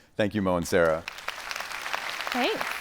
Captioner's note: attendees applauding